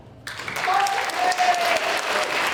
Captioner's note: applause